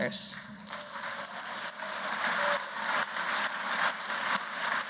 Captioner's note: applause